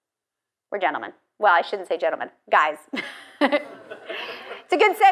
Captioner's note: laughs